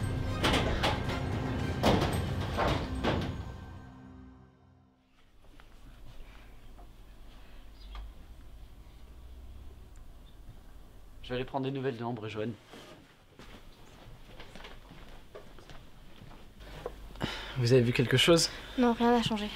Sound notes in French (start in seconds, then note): 0.3 Bruit de placard; 7.4 Chants d'oiseaux